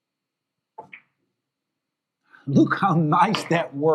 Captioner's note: ball clacks